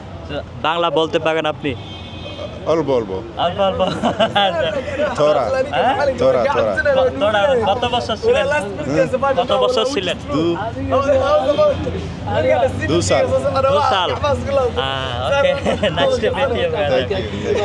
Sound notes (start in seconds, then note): 3.7 loud laughter